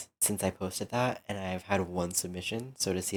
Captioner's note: none